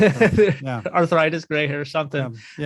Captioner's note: laughs